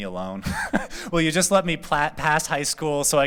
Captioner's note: laughter